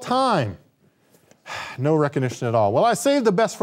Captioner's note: sighs